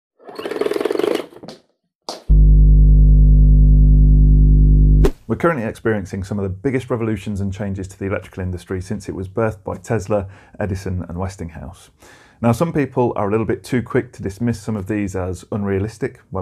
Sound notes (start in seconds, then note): 2.3 buzzing